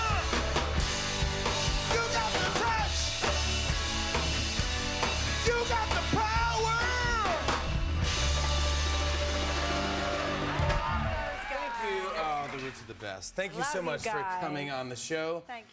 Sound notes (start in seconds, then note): 0.6 cheers and applause